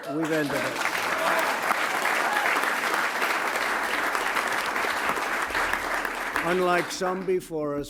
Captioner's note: applause